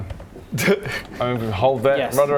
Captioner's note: snickers